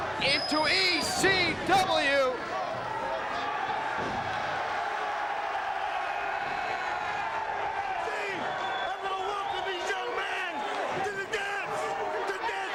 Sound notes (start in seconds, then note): 3.9 crowd cheers